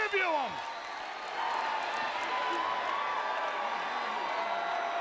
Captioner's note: audience cheering